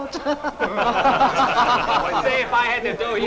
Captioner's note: laughing